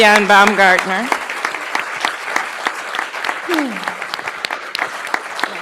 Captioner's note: audience continues clapping